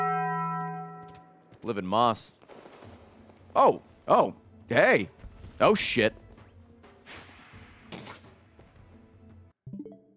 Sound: Taco Bell bong

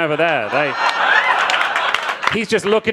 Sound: crowd laughing

